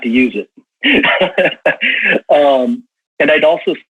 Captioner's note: laughs